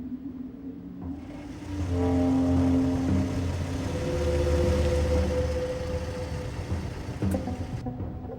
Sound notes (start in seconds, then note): 1.1 engine rumbling; 1.2 light dramatic music